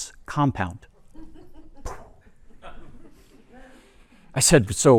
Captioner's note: laughter